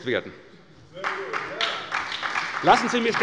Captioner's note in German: Beifall bei der SPD